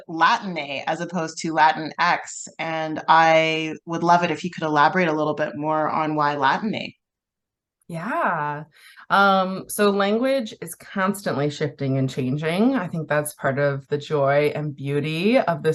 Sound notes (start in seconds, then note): none